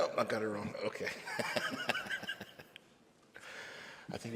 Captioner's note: laughs